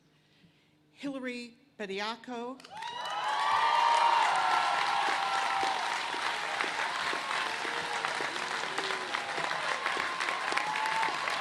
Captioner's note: cheers and applause